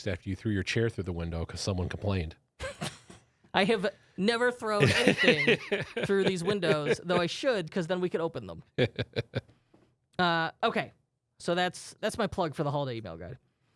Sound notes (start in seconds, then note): 2.7 laughing